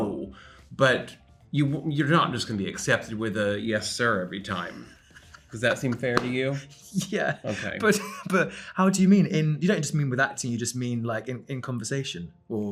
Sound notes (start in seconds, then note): 6.6 Ben chuckling